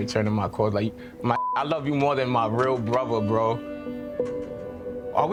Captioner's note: beep